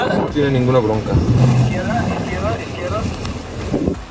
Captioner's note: voice on radio